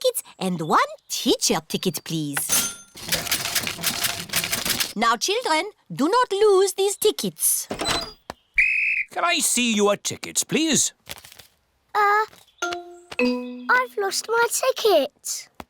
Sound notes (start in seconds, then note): 2.5 cash register dings; 8.5 blows whistle